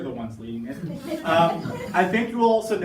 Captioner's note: participants laughing